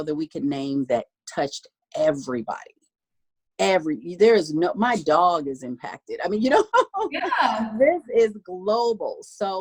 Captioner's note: laughing